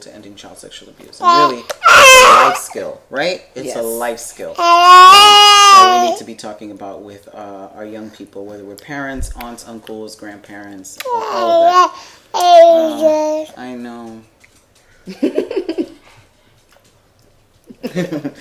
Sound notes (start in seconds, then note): 1.2 babbling; 11.0 babbling; 13.7 laughing